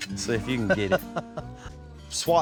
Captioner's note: chuckles